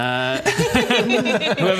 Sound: giggles

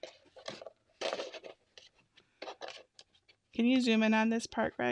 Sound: scissors cutting

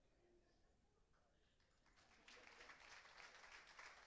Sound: applause

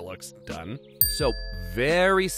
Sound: dings

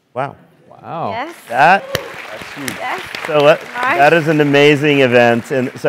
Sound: applause

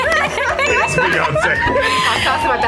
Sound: ding sounds

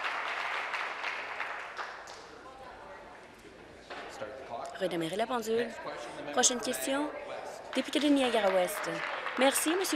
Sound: applause

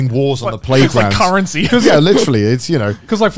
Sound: laughing

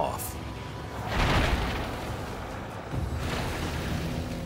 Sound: ice crashing

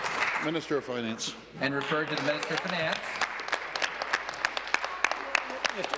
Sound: applause

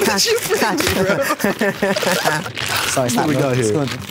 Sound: both laugh

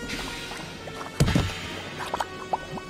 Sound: dunk

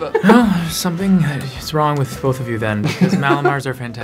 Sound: sighing

